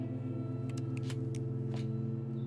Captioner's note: trigger clicks